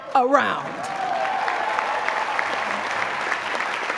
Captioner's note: applause